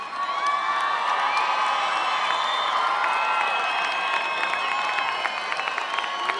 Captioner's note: cheering and Applause